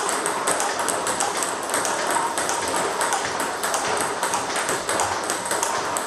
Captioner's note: ball ping pong hitting continues